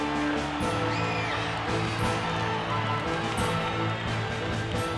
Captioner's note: audience cheers